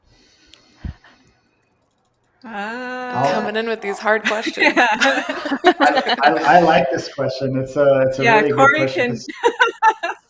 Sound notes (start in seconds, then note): 4.0 laughter; 5.0 laughing